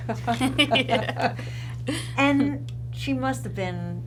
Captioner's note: laughing